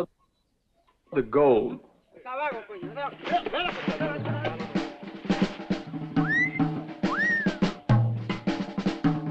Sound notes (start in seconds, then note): 0.1 men chattering; 0.1 upbeat instrumental music; 5.1 Jack wolf whistles